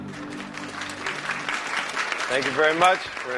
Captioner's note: Аплодисменти